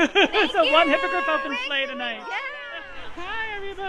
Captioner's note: laughs